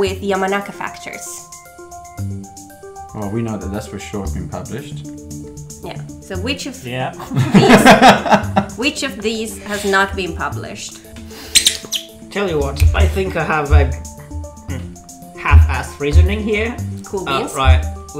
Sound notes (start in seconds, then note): 11.5 squeak!